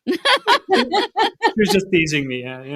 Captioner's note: all laughing